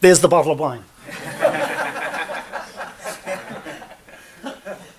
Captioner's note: laughter